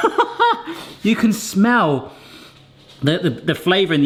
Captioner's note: sniffing